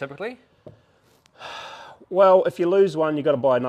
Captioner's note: sighs